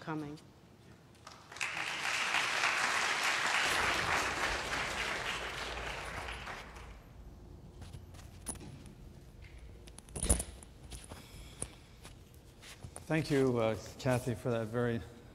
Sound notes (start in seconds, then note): 4.2 applause